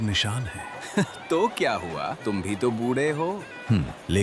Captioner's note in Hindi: हँसता है